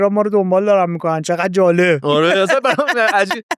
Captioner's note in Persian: خنده